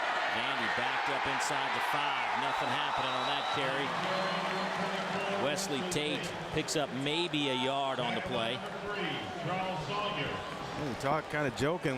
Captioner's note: crowd noise